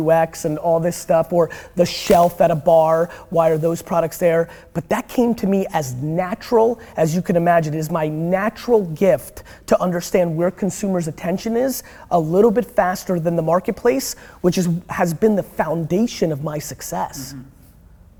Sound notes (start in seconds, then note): none